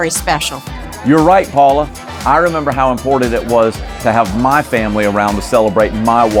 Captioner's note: none